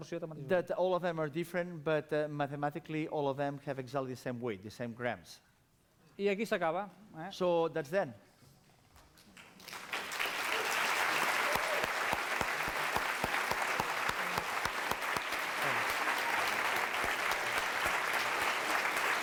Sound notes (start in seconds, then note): 6.4 non-english speech; 8.9 applause